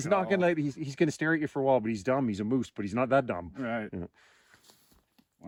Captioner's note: laughing